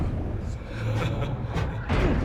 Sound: laughs

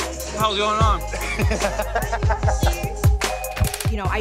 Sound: laughing

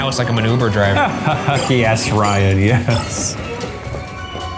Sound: laughs; tense music

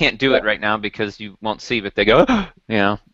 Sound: gasp

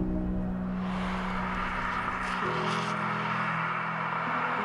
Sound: birds chirping; car whooshing

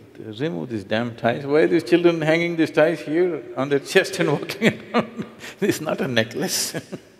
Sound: laughs

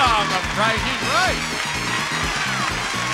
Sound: audience applauds; upbeat music

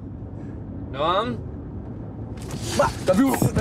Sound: laughing

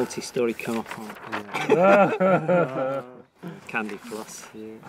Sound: laughter

